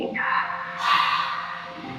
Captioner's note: exhales sharply; gentle music